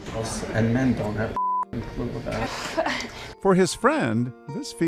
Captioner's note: beep